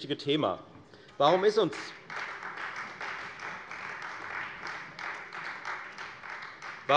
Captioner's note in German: Beifall Freie Demokraten